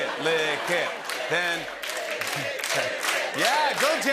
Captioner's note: crowd chanting "Lick it!"